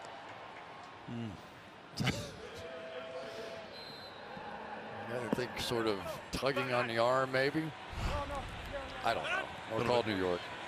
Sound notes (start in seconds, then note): 2.0 chuckles